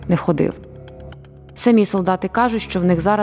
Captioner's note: Russian